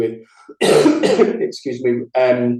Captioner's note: coughs